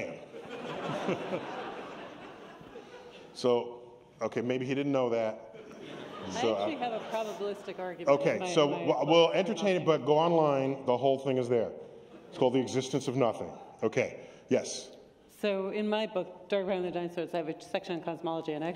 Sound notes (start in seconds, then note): 0.2 laughter